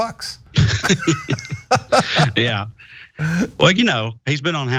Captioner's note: laugh